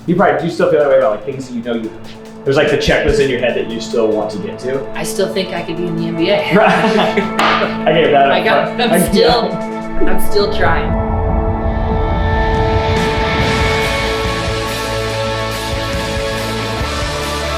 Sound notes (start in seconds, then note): 6.3 laughing; 13.0 inspirational music